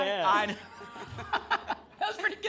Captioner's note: laughs